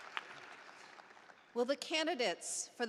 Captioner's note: applause